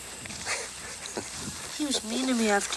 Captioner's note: Anthony chuckles